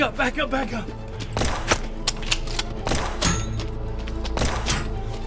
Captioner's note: gun firing